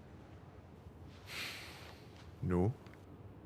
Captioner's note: sighs